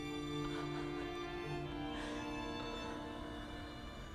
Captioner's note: Ora chuckles